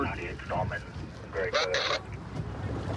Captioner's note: radio communication